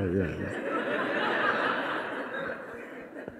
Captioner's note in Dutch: gelach